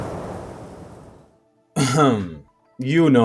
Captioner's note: the wind howls; hrm hrm